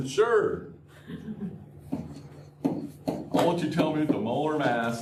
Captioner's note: laughter